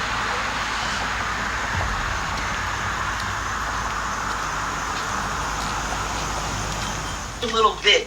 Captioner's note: water splashing